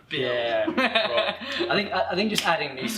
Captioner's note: laughter